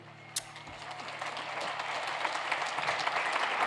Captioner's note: cheers and applause